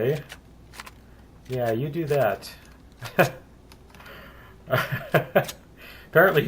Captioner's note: pulse rifle; laughs; reloading